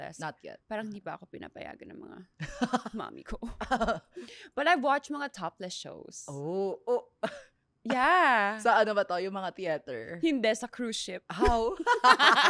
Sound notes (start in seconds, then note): 2.6 laughs; 7.2 laughs